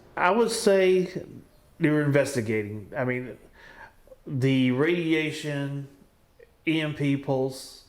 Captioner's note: none